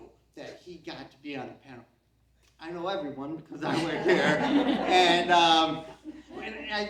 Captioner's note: CROWD laughs